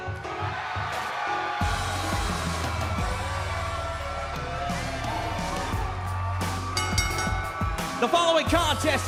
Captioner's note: crowd cheering; bell ringing